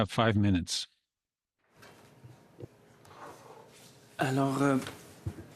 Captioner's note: speaking French